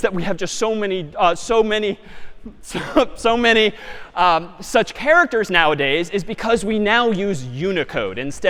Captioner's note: می خندد